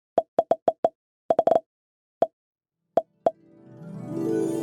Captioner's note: quiet popping; bright music